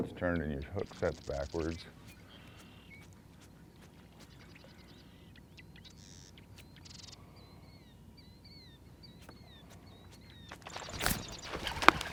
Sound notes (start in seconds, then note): 3.7 birds singing; 5.0 fish splashing; 6.3 rod whipping; 7.6 reel cranking